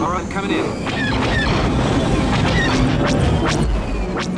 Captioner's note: blaster shots